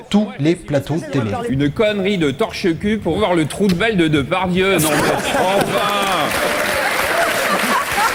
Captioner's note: laughs